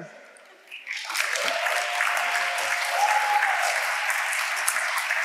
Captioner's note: audience applauding